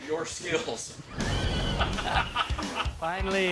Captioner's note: laughing